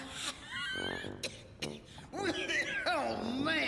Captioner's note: coughing